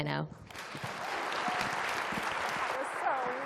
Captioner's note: applause